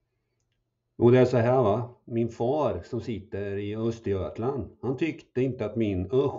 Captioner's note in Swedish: På öschötsk dialekt